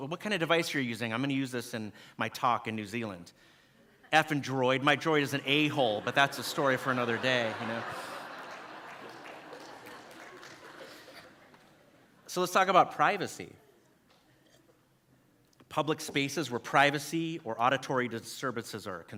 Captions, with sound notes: What kind of device are you using. I'm gonna use this in my talk in New Zealand. F'n Droid. My Droid is an A-hole. But that's a story for another day. (audience laughing) So let's talk about privacy. Public spaces where privacy or auditory services